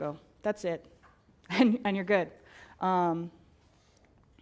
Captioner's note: laugh